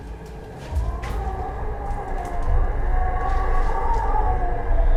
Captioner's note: cat growling and moaning